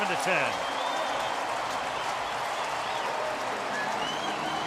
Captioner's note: pa announcement